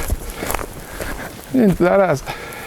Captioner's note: swears